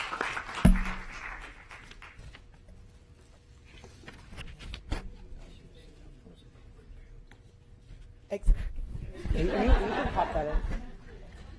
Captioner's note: applause